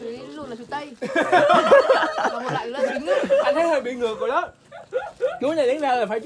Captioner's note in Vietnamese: Tiếng cười